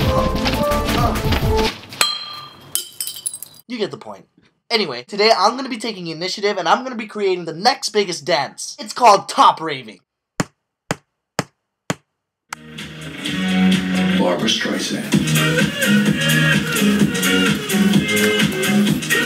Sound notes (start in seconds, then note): 2.0 bottle clinks